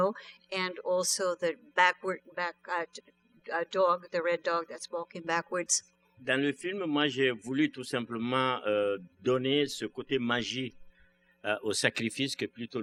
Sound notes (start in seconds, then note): 7.9 speaking french